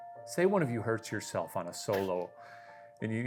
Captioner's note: chuckling